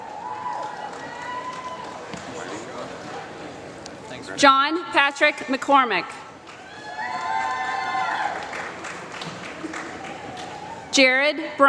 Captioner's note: applause